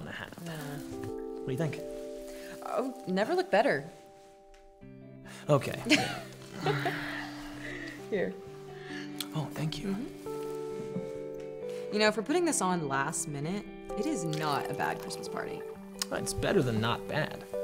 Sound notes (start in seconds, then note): 5.7 tender music; 5.9 chuckles